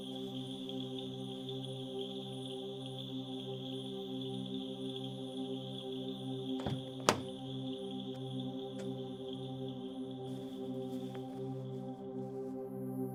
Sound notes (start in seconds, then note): 6.6 car door clicks open